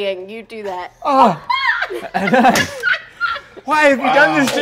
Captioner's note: laughing